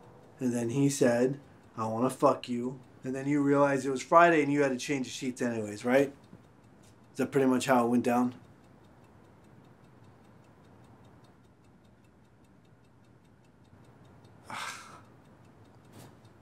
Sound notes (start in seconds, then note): 9.0 clock ticking; 14.4 sighs